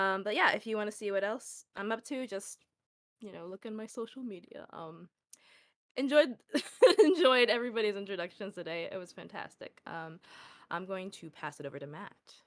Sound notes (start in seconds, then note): 6.6 laughs